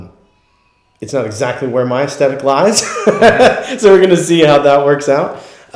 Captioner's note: laughs